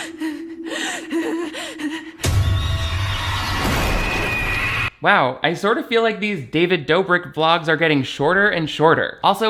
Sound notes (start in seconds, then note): 0.0 breathing loudly; 2.3 music intensifies; 3.8 victim screams